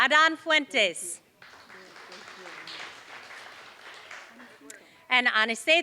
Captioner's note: applause